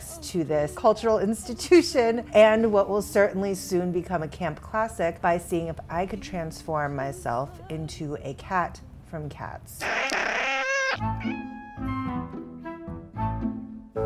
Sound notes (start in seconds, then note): 9.8 cat screeches; 10.9 playful music